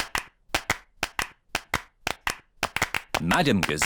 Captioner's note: all clapping